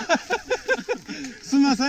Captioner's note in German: Lachen